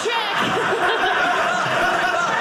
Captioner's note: audience laughing